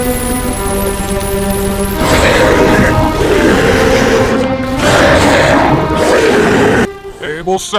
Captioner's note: machine guns firing, casings falling on concrete; monster growling and roaring